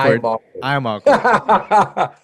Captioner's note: laughs